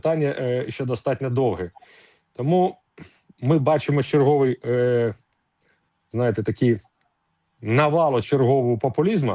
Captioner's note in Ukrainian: сопіння